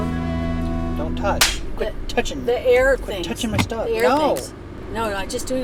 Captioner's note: slap